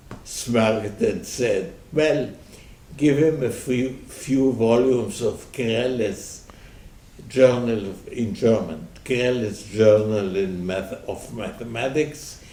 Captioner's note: in German